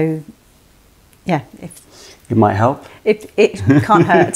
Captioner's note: laughter